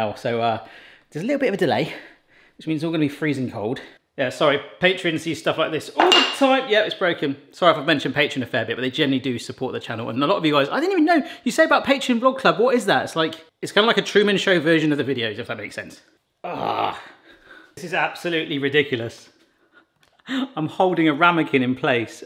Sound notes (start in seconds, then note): 16.4 groaning; 20.1 laughs